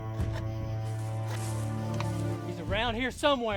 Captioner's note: sharpening; nearby footsteps